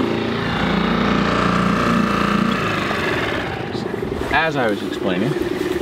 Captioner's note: engine revving